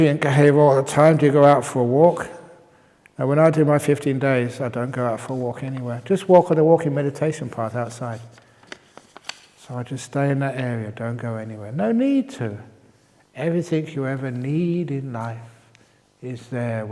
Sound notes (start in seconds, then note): none